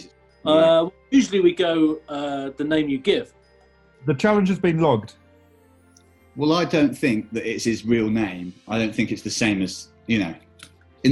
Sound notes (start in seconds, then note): none